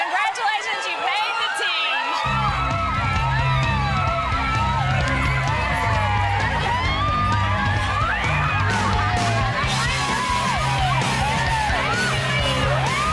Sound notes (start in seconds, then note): 2.2 upbeat music; 2.3 cheerleaders yelling